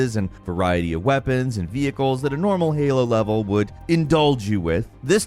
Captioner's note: none